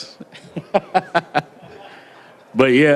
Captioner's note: laughter